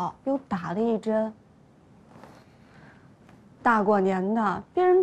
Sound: silence

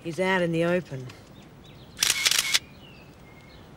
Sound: camera clicks

